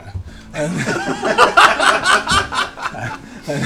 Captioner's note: all laugh